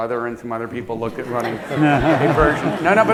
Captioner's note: laughter